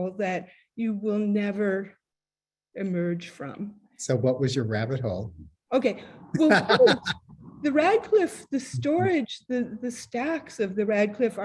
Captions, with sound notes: that you will never emerge from. - So what was your rabbit hole? - OK. Well, first-- - [laughs] - --the Radcliffe, the storage, the stacks of the Radcliffe